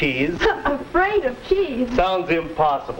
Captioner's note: scoffs